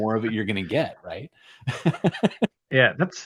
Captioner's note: laughter